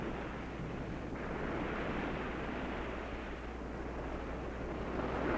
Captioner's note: waves crashing